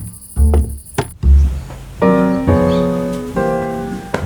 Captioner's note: birds chirping